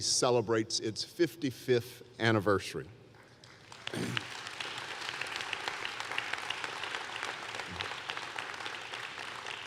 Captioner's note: applause